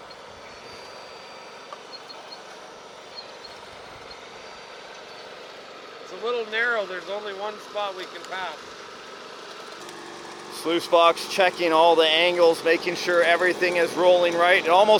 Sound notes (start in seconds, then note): 0.0 mechanical whirring; 0.6 engines running